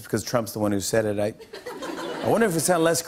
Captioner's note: light laughter